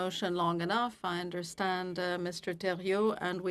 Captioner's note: speaking FRENCH